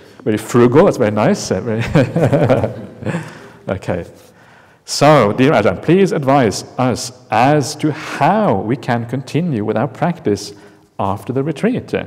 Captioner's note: chuckle